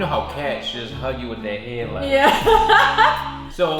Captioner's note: chuckles